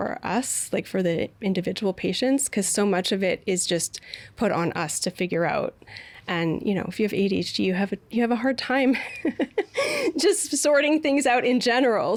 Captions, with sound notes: like, for the individual patients because of much of it is just put on us to figure out and, you know, if you have ADHD, you have a hard time-- (Laughing) just sorting things out in general,